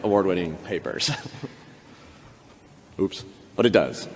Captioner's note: chuckles